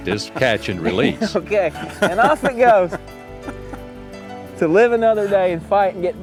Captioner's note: laughter